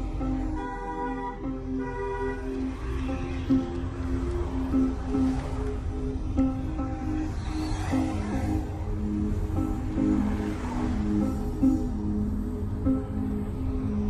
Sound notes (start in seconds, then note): 0.1 horn honking; 7.8 suspense music